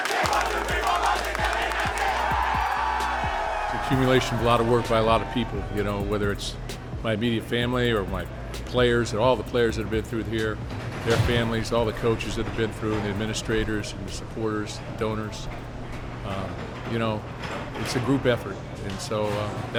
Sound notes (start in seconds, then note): 2.3 cheering